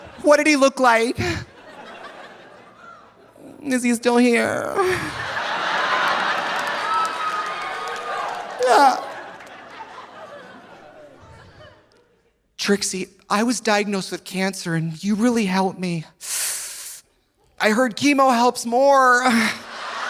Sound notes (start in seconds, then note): 1.2 audience laughing; 4.8 audience laughing; 5.5 audience applauding; 8.6 Trixie moans; 16.2 Trixie sucks air through teeth; 19.3 audience laughing